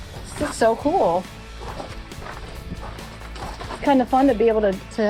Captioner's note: gravel crunching